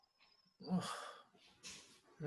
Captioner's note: sighs